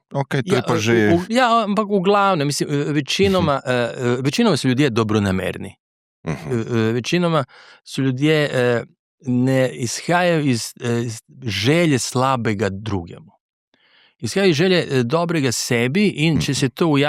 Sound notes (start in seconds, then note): 7.3 clears throat